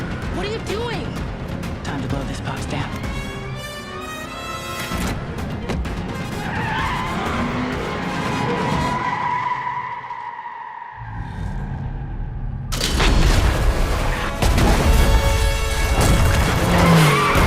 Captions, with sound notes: What are you doing? Time to blow this house down. [TIRES SCREECHING] [EXPLOSION]